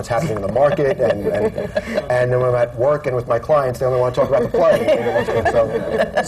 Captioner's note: laughter